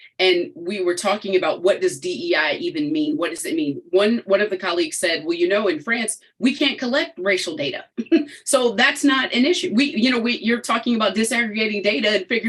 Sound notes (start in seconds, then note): 8.0 chuckles